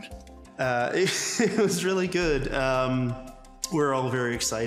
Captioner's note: laughs